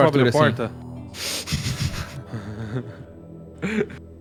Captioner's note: laughter